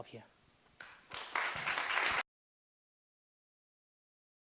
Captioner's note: applauding